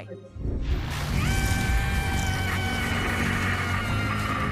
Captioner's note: screaming